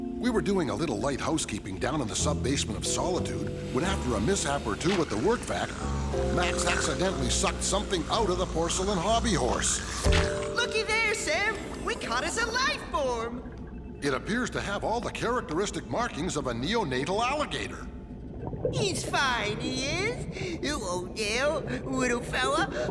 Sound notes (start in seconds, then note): 9.9 shoop